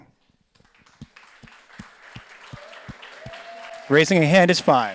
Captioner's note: audience applauds